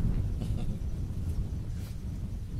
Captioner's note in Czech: Směje se